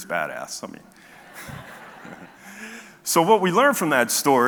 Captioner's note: audience chuckles